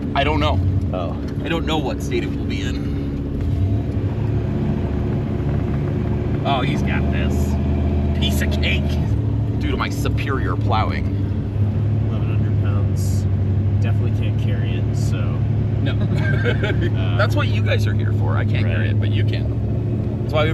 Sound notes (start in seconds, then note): 15.9 laughs